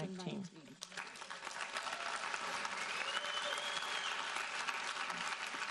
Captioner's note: audience applauding